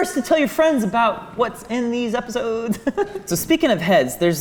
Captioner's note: giggles